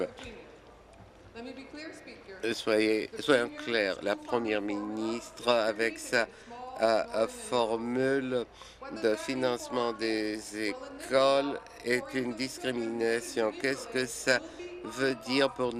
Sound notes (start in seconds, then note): 1.2 speaking in French; 6.9 speaking in English